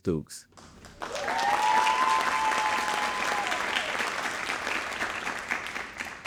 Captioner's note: audience cheering and applauding